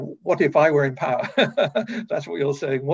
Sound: chuckles

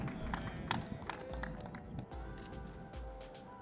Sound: applause

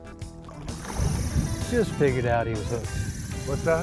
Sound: splashing

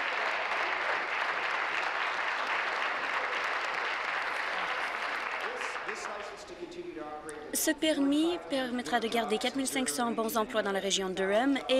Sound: applause

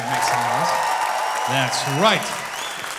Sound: audience cheering

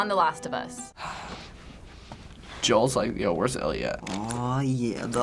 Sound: Joel breathes uneasily

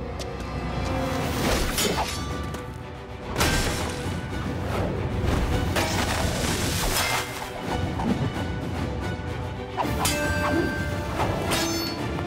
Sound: swords clashing, fighting noises

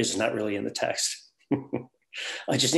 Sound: the instructor laughs

